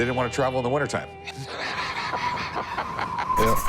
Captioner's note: laughs; patriotic music